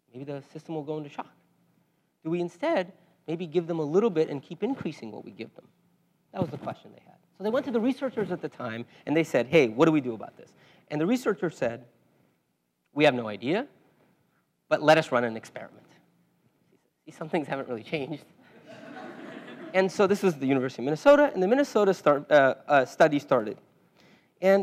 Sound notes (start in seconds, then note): 18.6 laugh